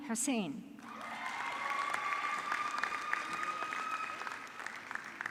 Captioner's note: audience clapping